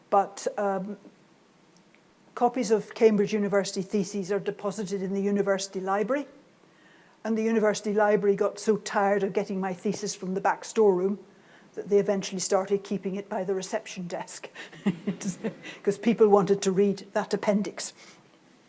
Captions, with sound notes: But copies of Cambridge University theses are deposited in the university library, and the university library got so tired of getting my thesis from the back store room that they eventually started keeping it by the reception desk. (laughs) 'Cause people wanted to read that appendix.